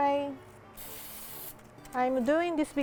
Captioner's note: spraying oil